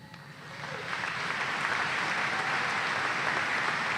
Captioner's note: applause